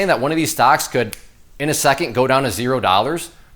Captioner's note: fingers snap